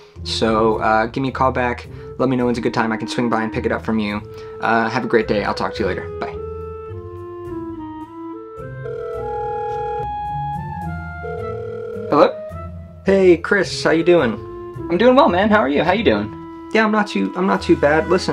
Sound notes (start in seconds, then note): 6.6 comical music; 8.9 ringtone warbles